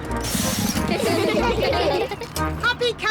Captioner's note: all giggling